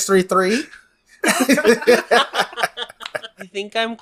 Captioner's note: laughs